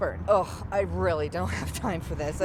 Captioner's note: none